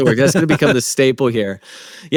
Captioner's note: laughing